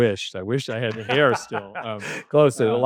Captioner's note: laughing